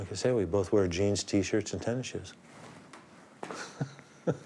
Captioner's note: chuckles